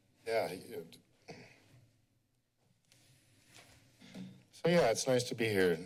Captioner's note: pause